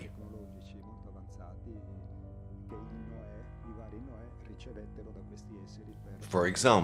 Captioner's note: gentle music continues; speaking in foreign language